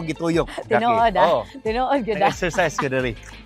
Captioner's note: chuckles